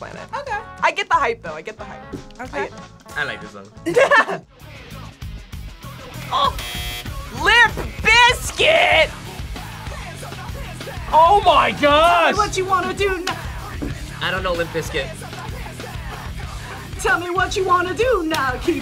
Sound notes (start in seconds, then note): 3.8 both laugh; 6.5 buzzer